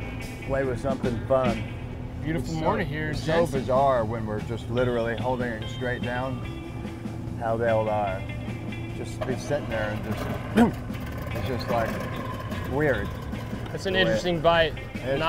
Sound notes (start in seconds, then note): 10.5 grunts